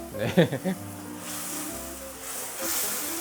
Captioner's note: tssssss